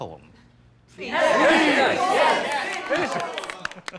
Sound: crowd

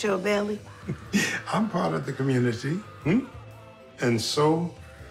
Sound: chuckles

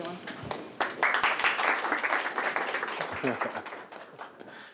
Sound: applause

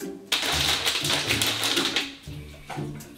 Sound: noise of water being spilled

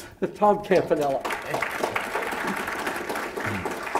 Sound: applause

